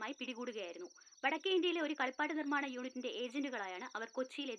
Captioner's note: TV news